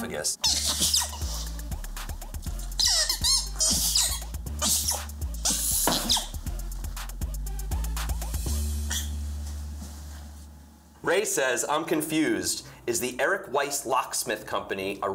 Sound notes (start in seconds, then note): 0.3 balloon squeaking; 5.4 balloon pops